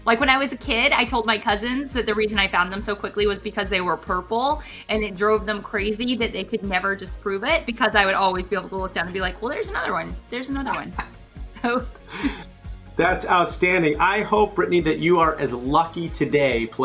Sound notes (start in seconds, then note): 11.5 laughs